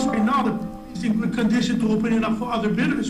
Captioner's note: phone chimes